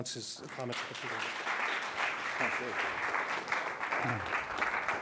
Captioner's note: applause